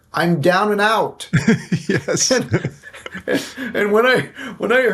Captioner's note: laughing